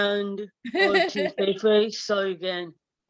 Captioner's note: laughing